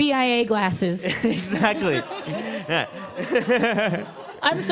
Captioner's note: laughs